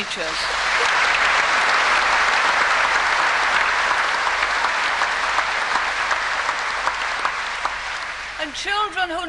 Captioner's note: applause